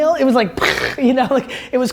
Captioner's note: imitates explosion